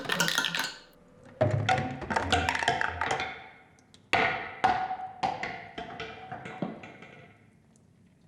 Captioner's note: plastic clinking